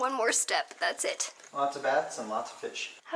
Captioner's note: none